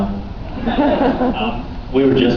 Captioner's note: laughs